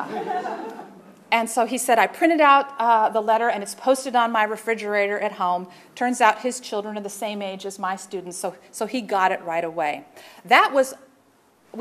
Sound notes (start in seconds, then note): 1.8 laughter